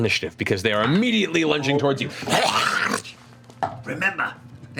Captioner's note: snarls